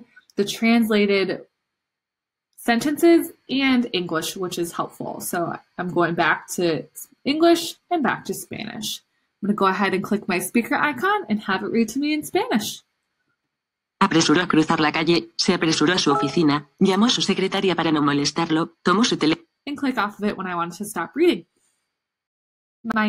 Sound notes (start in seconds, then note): 13.5 speaking spanish